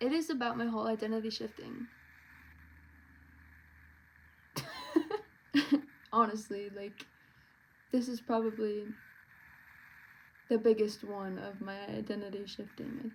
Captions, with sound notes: It is about my whole identity shifting. (laughs) honestly like This is probably.. The biggest one of my identity shifting, I think.